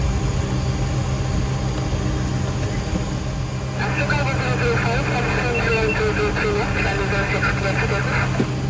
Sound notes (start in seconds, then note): 3.8 air traffic controller on speaker